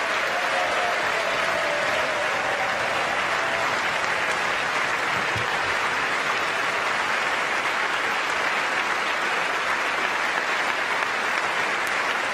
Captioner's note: applause